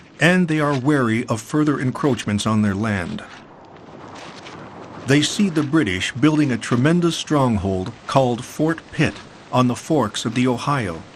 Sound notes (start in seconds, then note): none